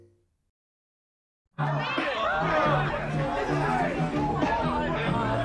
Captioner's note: chatter